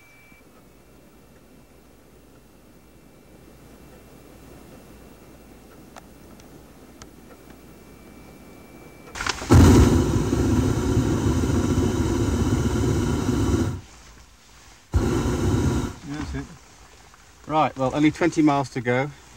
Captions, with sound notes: (tank roaring) - That's it? - Right, well only 20 miles to go.